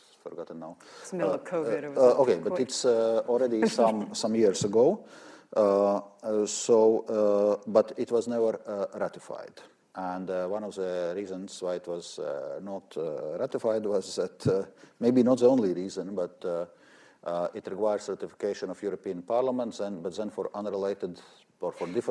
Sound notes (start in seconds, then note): 3.5 laughs